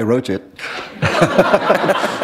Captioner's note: laughter